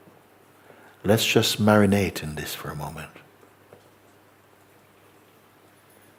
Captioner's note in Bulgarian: тишина